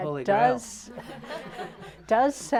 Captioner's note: laughter